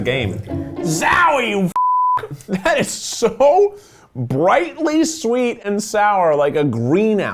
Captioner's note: beep